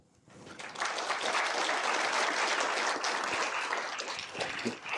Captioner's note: applause